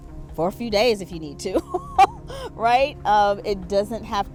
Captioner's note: laughs